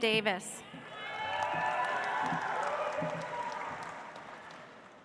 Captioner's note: audience applauds